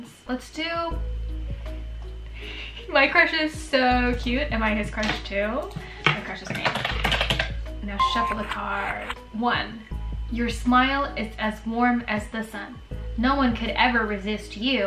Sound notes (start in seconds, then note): 6.0 typing